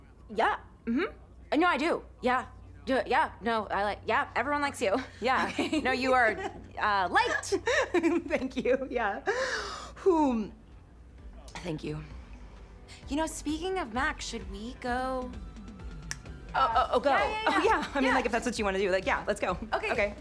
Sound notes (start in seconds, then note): 7.4 cassie laughs; 7.4 laughs; 9.7 exhales deeply